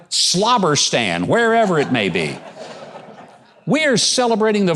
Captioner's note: audience laughing